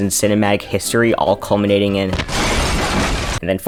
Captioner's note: house blows up